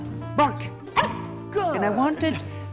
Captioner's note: barking